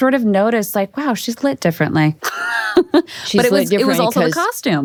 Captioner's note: laughs